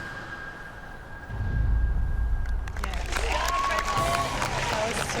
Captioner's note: cheering and applause